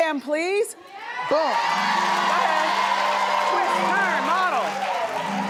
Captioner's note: cheering and applauding